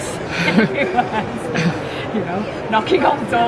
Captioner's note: laughing